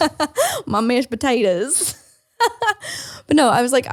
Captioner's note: laughs